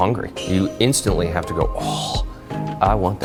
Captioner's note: sharply exhales